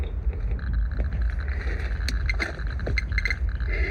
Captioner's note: geiger counters crackling